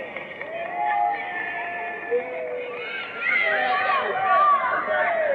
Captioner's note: audience clapping